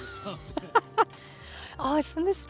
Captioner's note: laughs